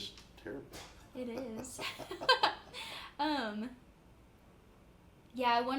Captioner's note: laughs